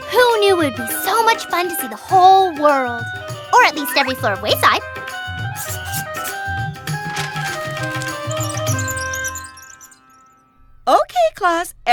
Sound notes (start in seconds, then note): 7.1 wheels squeak